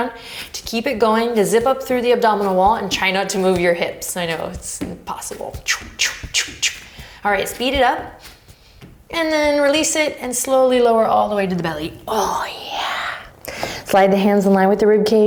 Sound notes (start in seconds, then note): 5.5 whooshing